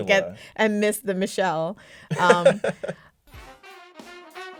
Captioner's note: laughter